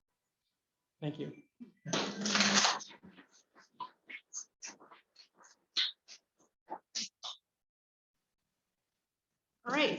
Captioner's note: applause